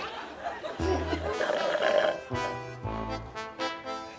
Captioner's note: all laughing; slurps